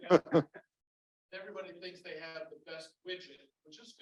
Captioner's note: laugher